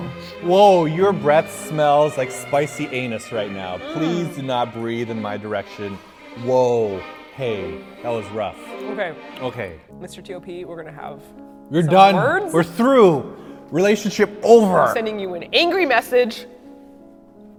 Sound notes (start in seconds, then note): 6.8 blow